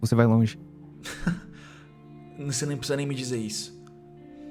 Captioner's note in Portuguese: risos